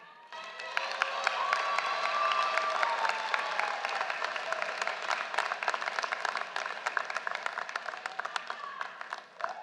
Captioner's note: applause